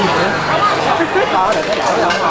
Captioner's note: laugh